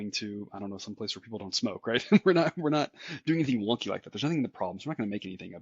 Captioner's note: laugh